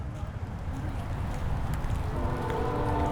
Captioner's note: distant train whistle